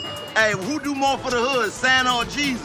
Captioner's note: bell dings